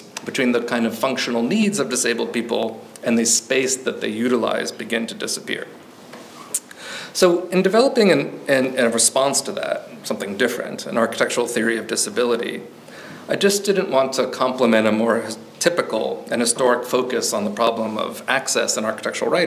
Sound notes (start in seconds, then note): none